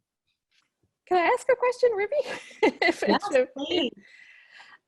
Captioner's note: laughing